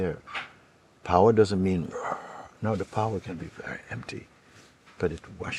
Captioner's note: roars